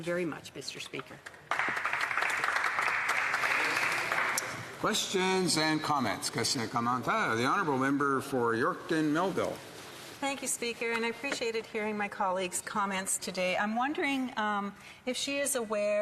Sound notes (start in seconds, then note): 4.5 applause